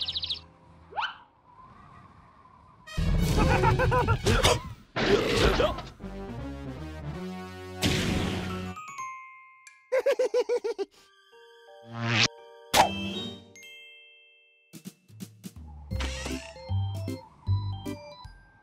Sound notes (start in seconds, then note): 3.3 laughing; 4.2 loud burp; 9.9 snickering; 16.0 hinges squeaking